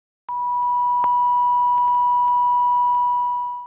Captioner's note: beep